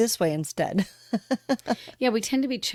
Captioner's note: laughter